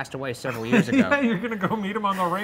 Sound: laughs

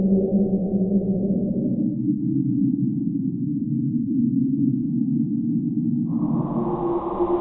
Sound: long, deep, moaning sound; low, empty, windy sound; repetitive, droning, deep, electronic humming sound

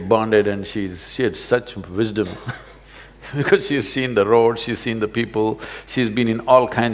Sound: laughs

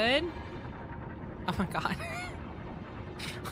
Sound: laughter

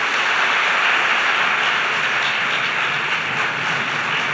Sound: applause

